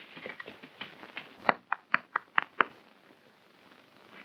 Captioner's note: tapping